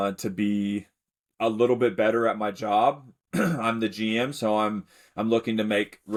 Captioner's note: clears throat